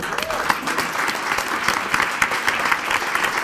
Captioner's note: applauding